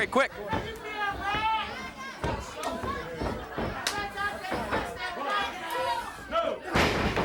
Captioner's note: footsteps plodding; hands clapping; blows thudding